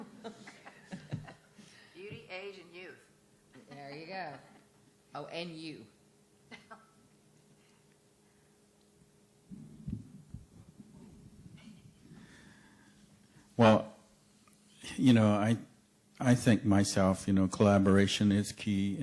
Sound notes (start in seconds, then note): 0.0 laughter; 6.5 chuckling